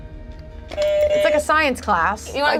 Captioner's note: buzzer honks